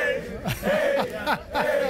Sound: cheering

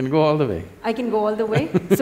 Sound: Sadhguru Laughs

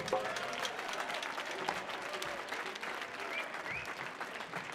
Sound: audience clapping

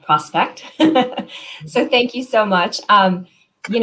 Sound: laughter

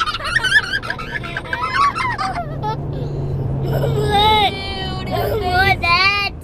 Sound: excited laughing and screaming

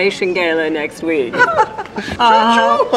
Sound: all chuckling; chuckles

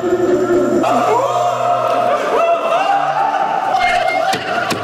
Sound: so much yelling and shouting going on

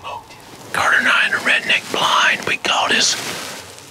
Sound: whispering

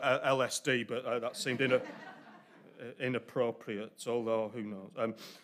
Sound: audience laughter

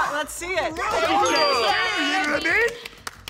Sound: cheering

